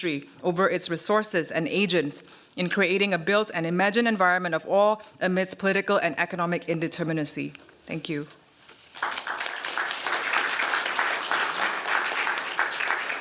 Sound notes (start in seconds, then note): 8.8 applause